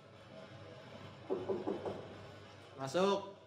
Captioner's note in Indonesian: Tok, tok, tok